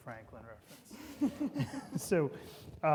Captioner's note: everybody laughing